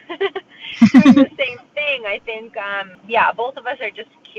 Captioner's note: laughs